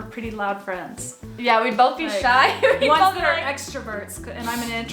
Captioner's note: laughs